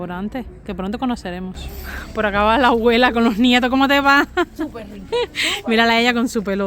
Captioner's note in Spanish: risas